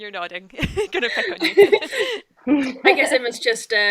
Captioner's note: laughs